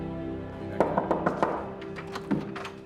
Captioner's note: knocking on door